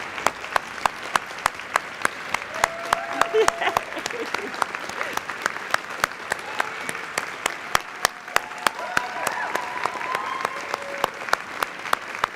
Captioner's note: applause